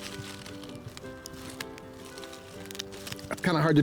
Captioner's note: leaves rustling